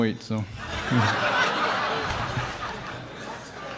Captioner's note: crowd laughing